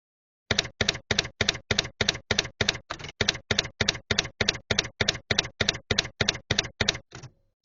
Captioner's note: typewriter keys clacking